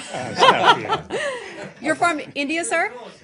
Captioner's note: laughter